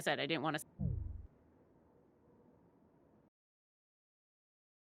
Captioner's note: warped sound